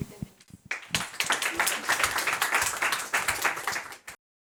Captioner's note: hands clapping